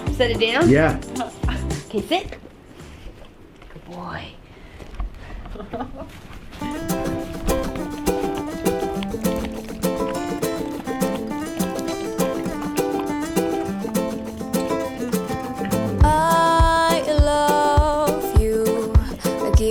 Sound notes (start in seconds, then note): 6.7 Bosco eating; 7.0 upbeat guitar music